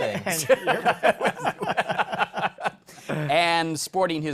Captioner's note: laughter